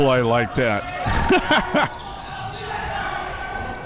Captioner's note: laughs